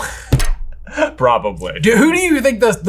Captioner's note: chuckles